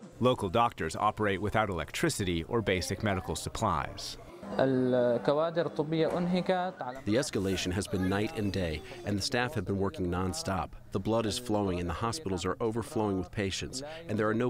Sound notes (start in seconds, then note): 5.6 through translator